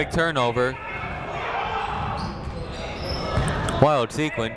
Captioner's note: people shouting in the crowd